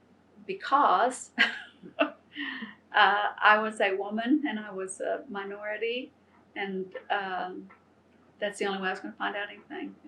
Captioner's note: laughs